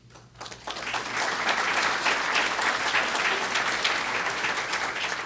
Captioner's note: audience applause